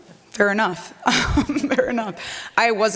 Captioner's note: laughs